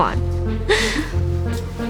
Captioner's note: laughs